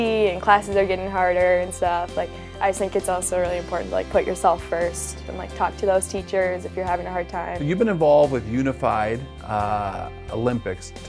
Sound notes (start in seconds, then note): none